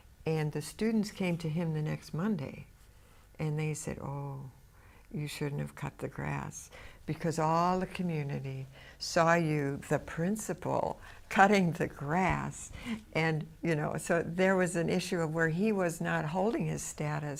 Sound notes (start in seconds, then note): 12.7 laughs